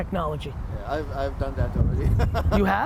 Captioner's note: laughs